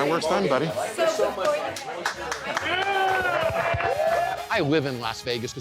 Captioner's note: customers clapping